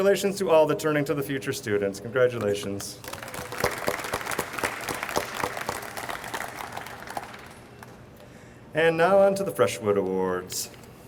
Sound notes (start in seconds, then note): 3.0 audience applauds